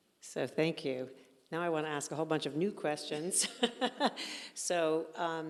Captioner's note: laughing